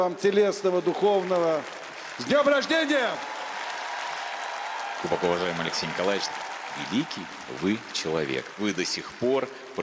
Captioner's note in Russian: аплодисменты